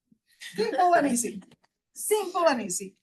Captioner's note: attendees laughing